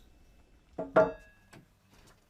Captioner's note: dull knocking